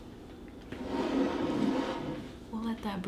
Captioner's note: teapot dragging across table